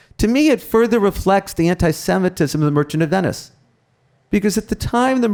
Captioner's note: none